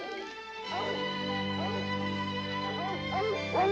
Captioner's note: dogs barking